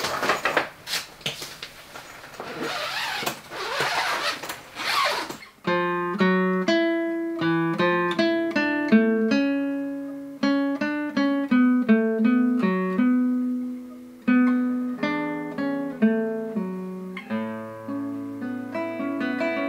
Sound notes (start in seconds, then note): 3.1 sound of guitar case opening